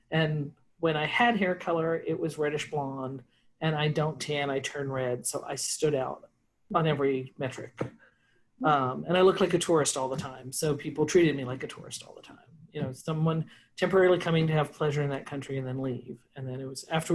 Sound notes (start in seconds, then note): none